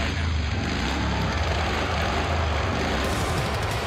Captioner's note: engine revving